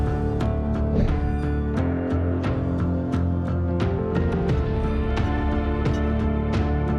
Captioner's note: soft dramatic music; colored bars whooshing